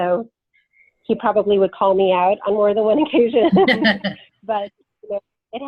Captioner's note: laughs